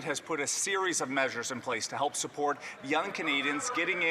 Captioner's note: some Applause